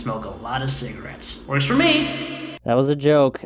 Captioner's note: heavily reverbed